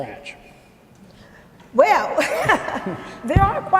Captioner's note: laughs